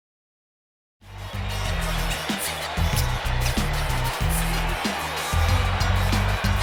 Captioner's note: crowd cheering; upbeat music